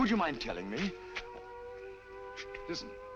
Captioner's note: air raid sirens